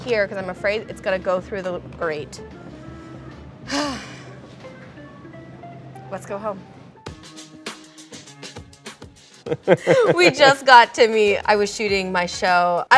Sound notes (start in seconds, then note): 3.6 Lana sighing; 7.4 upbeat music; 9.4 laughing